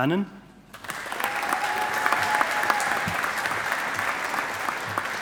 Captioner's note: audience applauding